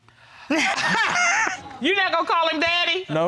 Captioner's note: laughter